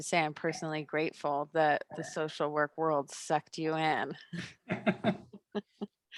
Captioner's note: laugh